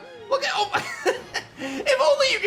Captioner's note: laughs